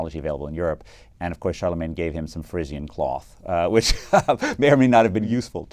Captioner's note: laugh